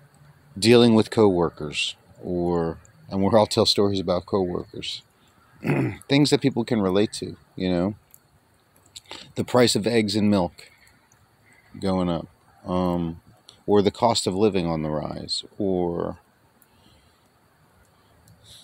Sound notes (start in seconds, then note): 5.6 clears his throat